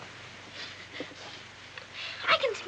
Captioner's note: sniffing